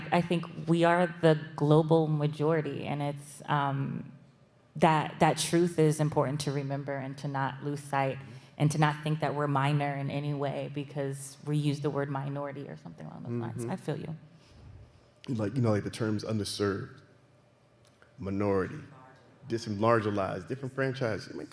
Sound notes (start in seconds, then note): none